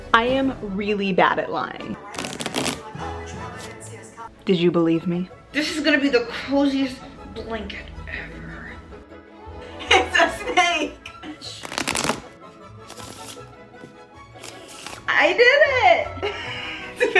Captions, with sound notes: I am really bad at lying. (cards shuffling) Did you believe me? This is gonna be the coziest blanket ever. It's a snake! (cards shuffling) I did it! (Laughing)